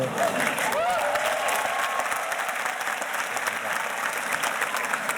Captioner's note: murmurs; audience cheers and applauds